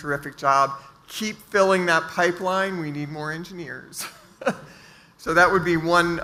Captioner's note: laughs